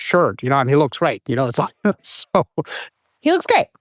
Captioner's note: laughs